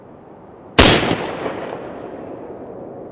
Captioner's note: gunshot